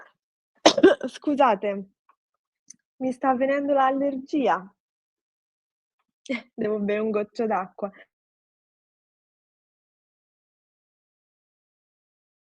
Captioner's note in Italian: schiarire la voce